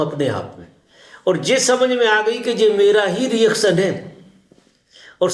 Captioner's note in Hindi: नाक से की जाने वाली आवाज़